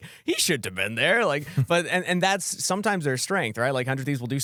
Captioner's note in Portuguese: risos